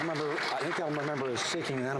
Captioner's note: some Applause